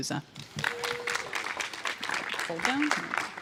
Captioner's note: applause